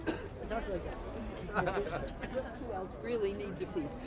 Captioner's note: indistinct chatter